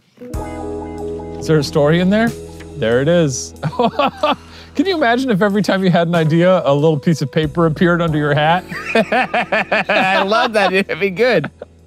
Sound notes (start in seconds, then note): 0.2 cue sexy music; 3.6 laughs; 8.7 laughing